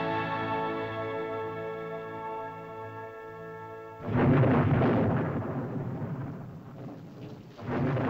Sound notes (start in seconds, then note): 4.0 thunder rolls; 6.9 rain patters; 6.9 thunder rolls